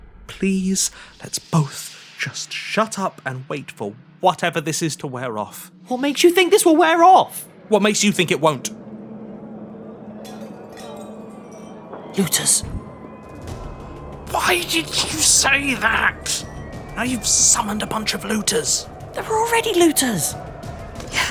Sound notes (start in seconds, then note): 10.0 rummaging in the distance